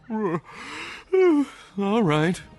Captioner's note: yawning